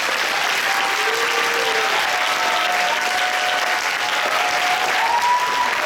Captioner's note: applause